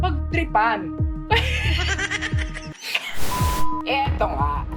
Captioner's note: laughs